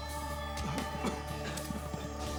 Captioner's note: people coughing